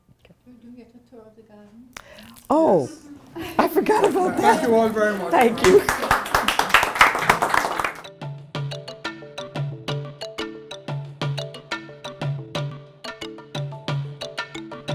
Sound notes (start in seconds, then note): 6.3 applause